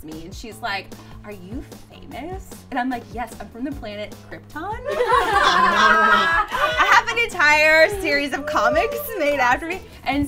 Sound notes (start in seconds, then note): 4.8 girls laughing